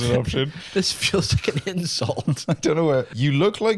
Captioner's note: laughing